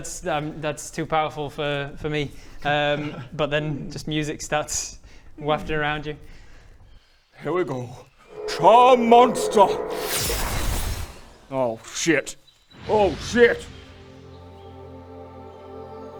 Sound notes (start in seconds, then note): 10.1 zwoooosh; 13.8 faint ethereal music